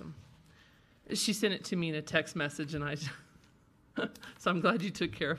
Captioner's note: laughs